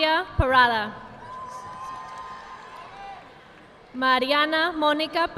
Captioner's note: audience applauding